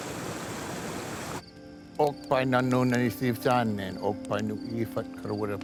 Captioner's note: speaking in Karuk language